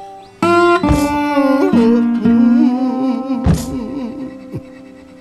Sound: man hums in sync with the guitar

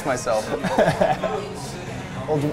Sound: laughs

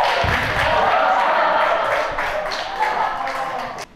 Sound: haha

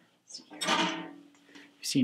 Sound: bucket clangs

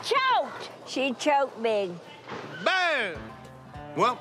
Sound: none

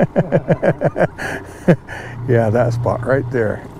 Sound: chuckling

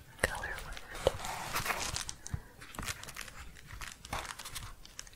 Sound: crinkling

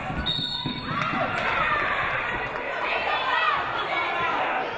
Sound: referee blows whistle

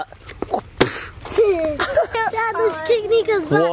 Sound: kicking sound

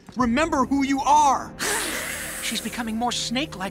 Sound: hissing

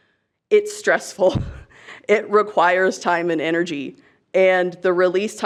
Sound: chuckles

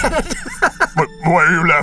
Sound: laughing

